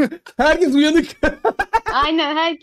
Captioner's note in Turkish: Gülüşmeler